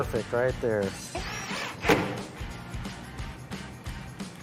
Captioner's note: drill whirring